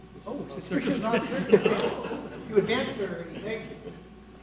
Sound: laughing and chattering

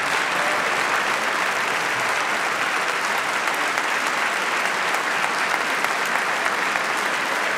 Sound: applause

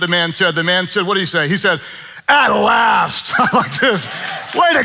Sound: laughing

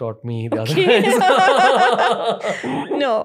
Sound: laughter

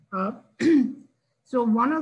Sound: clears throat

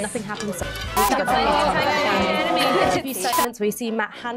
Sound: opinionated noises

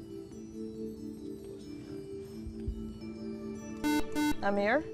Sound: whispering

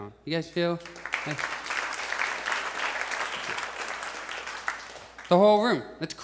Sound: audience applauds

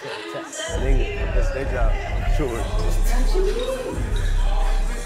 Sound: fan laughing; people chatting; beat music playing in background

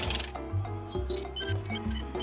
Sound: tires squeaking

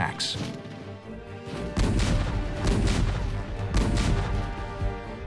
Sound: explosions

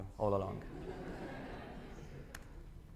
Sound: laughter

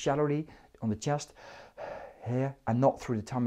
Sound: audibly inhaling

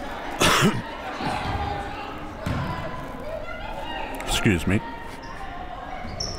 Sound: coughs

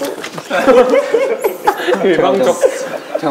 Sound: laughing

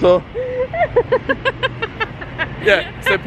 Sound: laughing

